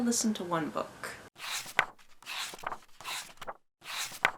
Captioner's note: pages turning